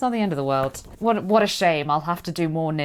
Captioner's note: sarcastically